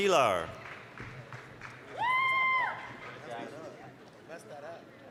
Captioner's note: applause, cheering